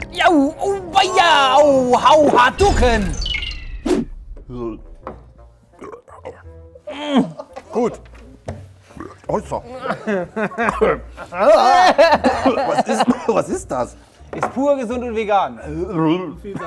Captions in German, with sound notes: Ja, auweia, uh! Hadouken! (Stöhnen) Gut! (Rülpser) Hoisa! (Lachen) Was ist das? - Pur, gesund und vegan.